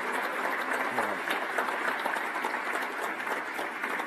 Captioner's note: applause